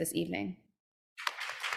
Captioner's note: applause